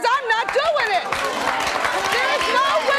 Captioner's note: clapping